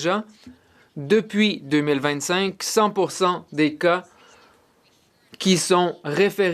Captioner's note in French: voix de l'interprète